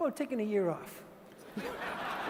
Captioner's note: laughter